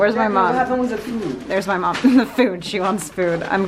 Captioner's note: laughs